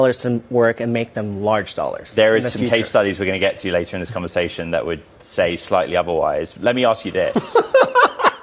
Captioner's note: laughter